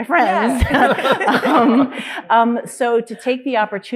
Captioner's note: panelists laughing